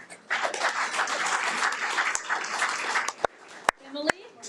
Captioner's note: audience applauding